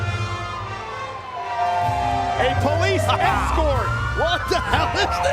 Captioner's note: sirens blaring